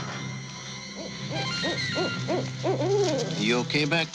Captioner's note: owl hooting